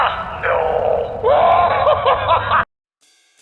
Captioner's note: laughter